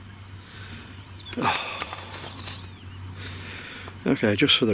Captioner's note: sighing